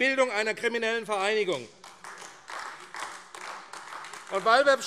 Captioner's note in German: Beifall AfD